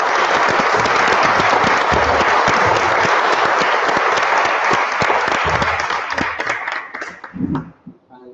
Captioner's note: applause